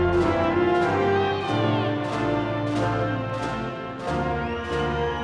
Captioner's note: audience cheering